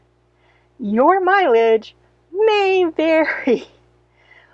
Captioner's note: laughs